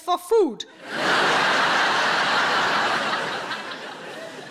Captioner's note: audience laughing